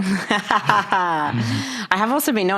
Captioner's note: laughs